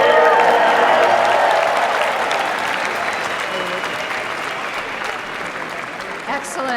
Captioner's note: audience applauding